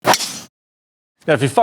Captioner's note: logo pings